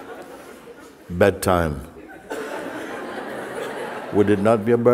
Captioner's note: Lachen